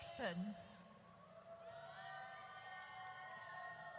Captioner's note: audience cheers